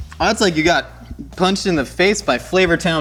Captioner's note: burbs